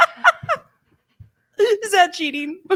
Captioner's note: both laugh